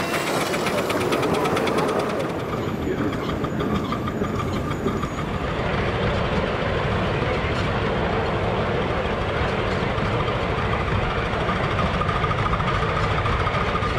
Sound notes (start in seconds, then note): 2.2 driving noises